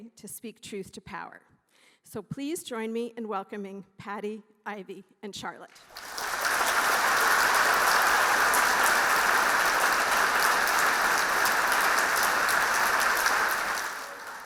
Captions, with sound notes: and forceful way, to speak truth to power. So please joining me in welcoming Pati, Ivy and Charlotte. (audience applauding)